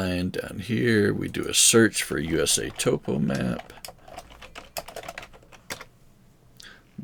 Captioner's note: keyboard clicking